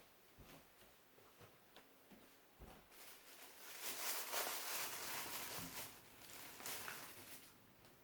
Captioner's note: plastic bag rustling